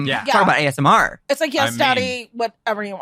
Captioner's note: sighs